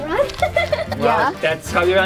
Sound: laughs

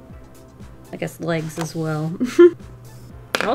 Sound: giggle

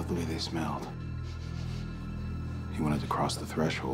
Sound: sniffing

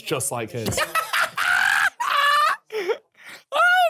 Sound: laughing

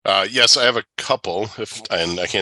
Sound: laughs

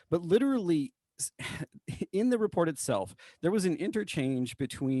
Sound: laughter

